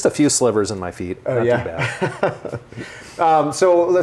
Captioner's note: laughs